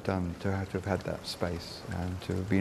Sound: raindrops dripping

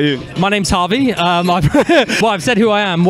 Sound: bursts into laughter

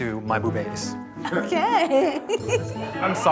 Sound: laughs

